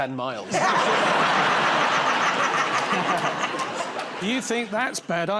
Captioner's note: laughter